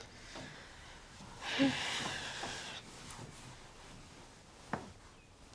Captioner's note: Hazel sighing